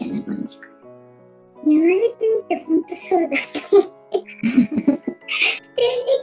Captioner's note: laughs